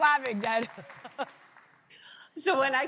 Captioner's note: laughs